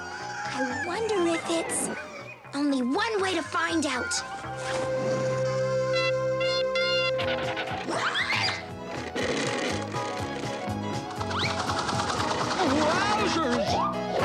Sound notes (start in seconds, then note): none